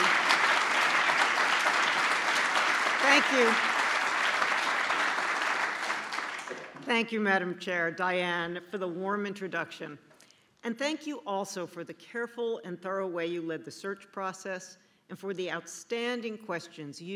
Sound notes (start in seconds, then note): 0.0 applause